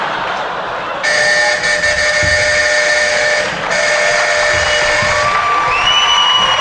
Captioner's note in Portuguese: campainha e aplausos